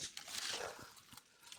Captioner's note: rustles